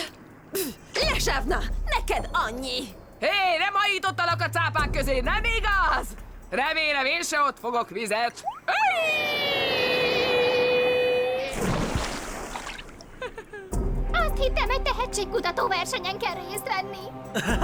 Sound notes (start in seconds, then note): 8.6 screaming